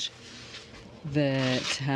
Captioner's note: speaking French